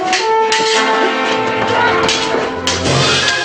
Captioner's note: shouts